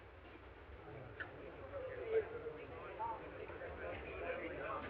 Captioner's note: all chattering